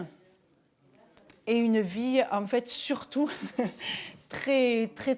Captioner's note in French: rires